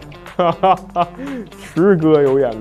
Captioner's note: hahaha